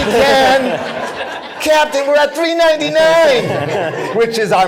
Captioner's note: laughter